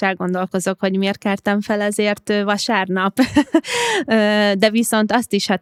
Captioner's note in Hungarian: nevetés